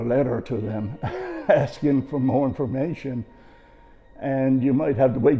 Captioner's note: chuckles